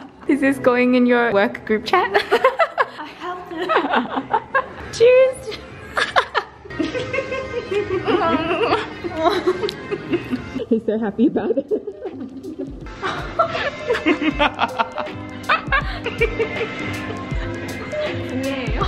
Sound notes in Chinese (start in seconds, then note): 14.2 邪恶的笑